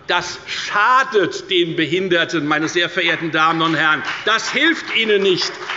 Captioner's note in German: Beifall bei der FDP und bei Abgeordneten der CDU